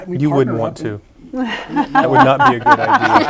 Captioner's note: laughter